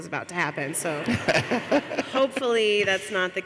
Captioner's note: laughs